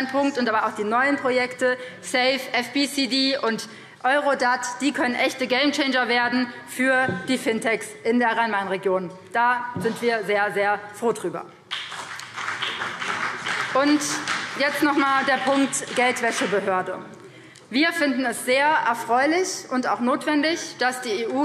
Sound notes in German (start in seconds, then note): 11.6 Beifall BÜNDNIS 90/DIE GRÜNEN und CDU